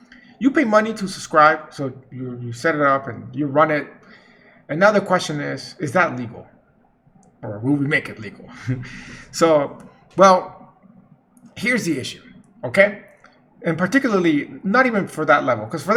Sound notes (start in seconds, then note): 8.5 chuckles